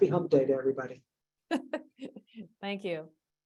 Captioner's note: laughs